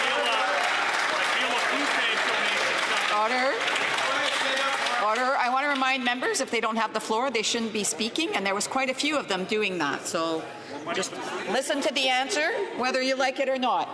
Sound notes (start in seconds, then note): 3.4 some Applause